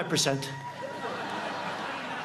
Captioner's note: applause